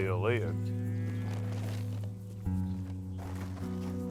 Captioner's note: cows lowing